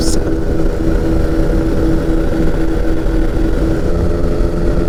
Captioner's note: plane engine rumbling